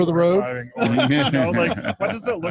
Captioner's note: laughing